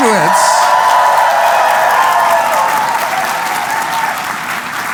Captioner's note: cheering